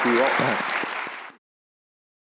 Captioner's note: applause